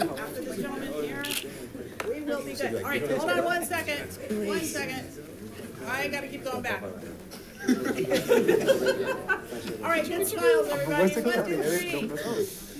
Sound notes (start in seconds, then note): 7.5 group laughing